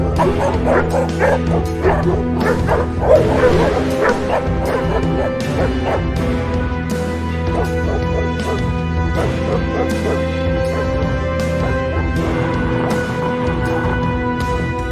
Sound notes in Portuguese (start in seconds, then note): 0.0 Cachorros latindo se intensificam; 3.0 Cachorros latindo; 3.0 Cachorros uivando; 5.1 Cachorros latindo; 7.6 Cachorro latindo; 11.5 Cachorro rosnando